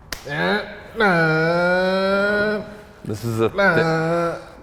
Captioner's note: groaning